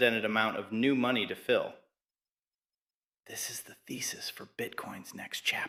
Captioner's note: whispers